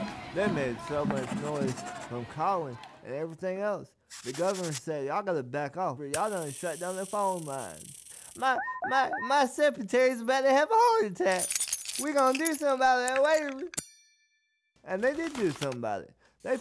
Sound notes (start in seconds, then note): 0.0 crowd chanting; 11.3 jangling; 13.9 bell rings